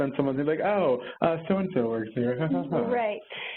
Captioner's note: chuckles